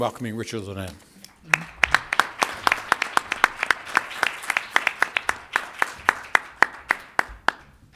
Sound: applause

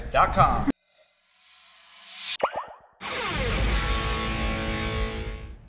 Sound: boing

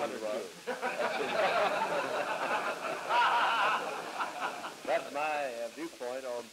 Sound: laughter

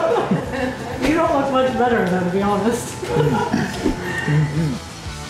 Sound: laughter; laughter

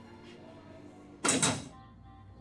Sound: locker shuts

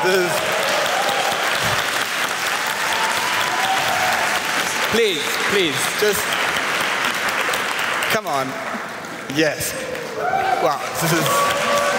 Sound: applause

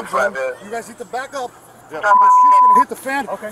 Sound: beeping

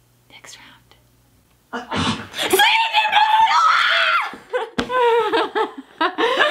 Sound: sneeze; screaming; laughing

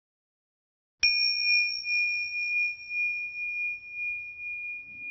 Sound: chime chiming

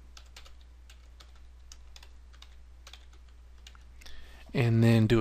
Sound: typing

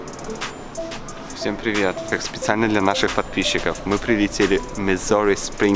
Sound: speaking in foreign language

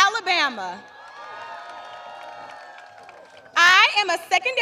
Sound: applause

